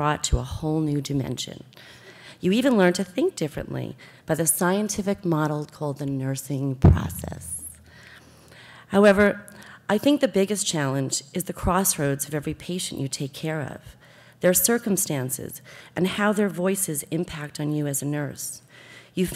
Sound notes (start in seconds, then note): none